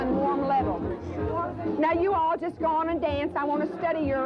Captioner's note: chatter and music cont